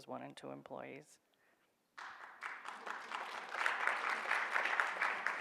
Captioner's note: audience applauds